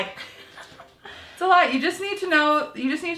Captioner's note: laughing